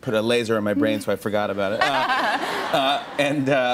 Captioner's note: laughter